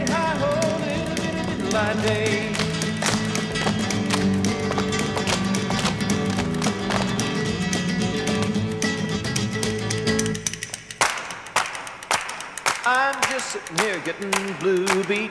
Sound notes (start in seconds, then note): 2.6 dancers thumping rhythmically; 11.0 dancers clapping